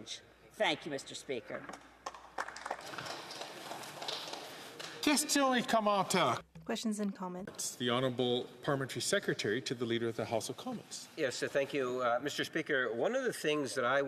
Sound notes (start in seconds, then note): 4.5 applause; 9.6 speaking French